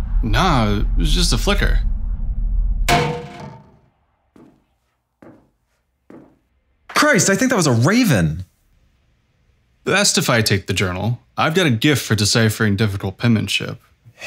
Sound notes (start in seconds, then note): 2.7 a bird strikes the window. footsteps